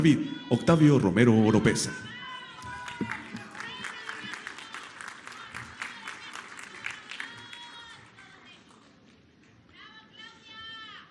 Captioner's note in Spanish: aplausos